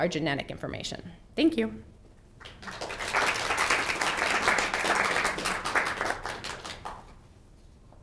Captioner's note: applause